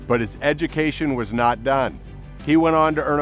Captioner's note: none